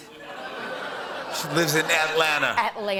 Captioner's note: audience oohs